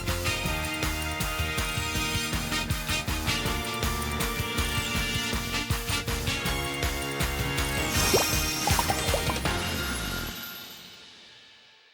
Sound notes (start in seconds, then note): 7.9 emojis popping